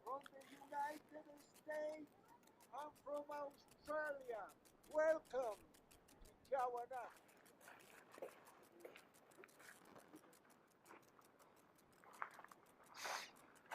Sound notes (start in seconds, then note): 5.6 speaks foreign language; 8.5 gravel crunching